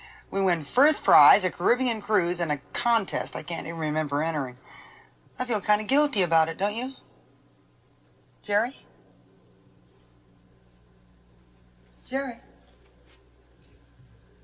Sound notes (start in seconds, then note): none